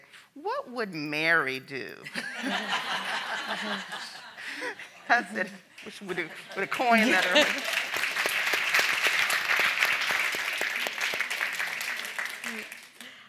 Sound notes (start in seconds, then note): 2.1 all laughing; 6.4 audience applauding